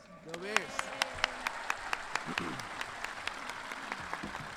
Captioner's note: everyone cheering